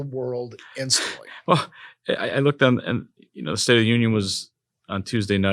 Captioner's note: laugh